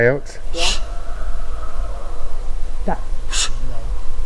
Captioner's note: hushing